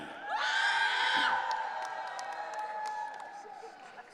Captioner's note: audience cheering